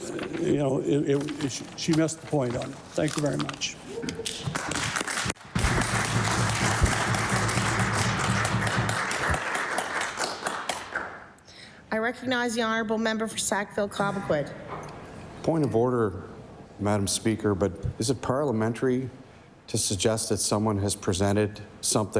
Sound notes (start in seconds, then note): 7.7 applause